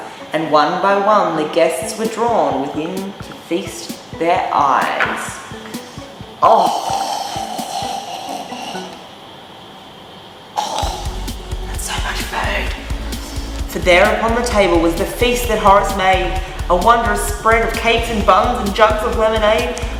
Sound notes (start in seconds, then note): 6.4 drooling; 10.2 whispering